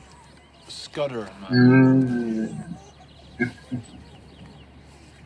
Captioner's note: chuckling